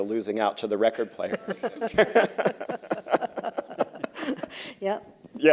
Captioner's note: laughter